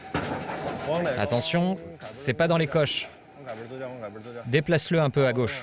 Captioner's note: speaking foreign language